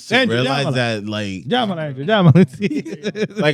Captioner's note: speaking In Foreign Language